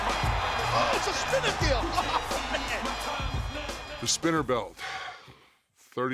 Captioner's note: laugh